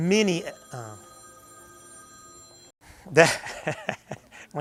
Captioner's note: phone ringing; chuckles